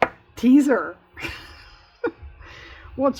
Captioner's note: laughs